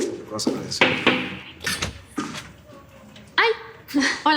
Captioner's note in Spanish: Toques en la puerta